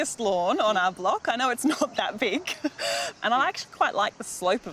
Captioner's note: laughs